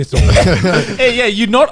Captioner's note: guys laughing